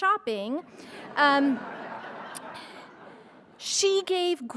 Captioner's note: crowd laughing